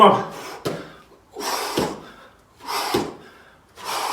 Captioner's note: exhales sharply